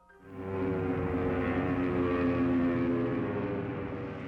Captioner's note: sound of plane flying